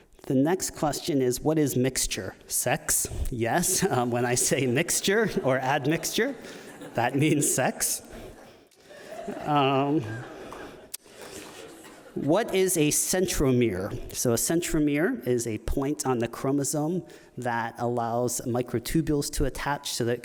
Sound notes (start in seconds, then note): 8.3 audience laughing